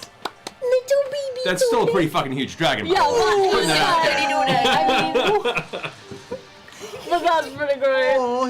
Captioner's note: laughter